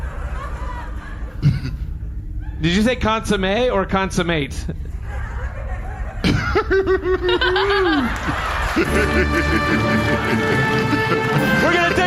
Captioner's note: laughs